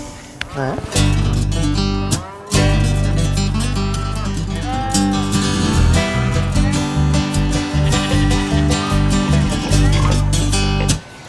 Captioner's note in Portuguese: Ruídos da natureza